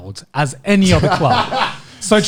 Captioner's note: laughing